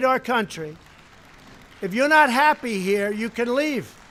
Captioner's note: audience applause